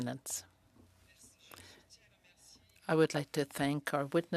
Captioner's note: speaking French